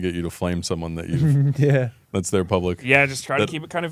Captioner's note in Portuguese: risos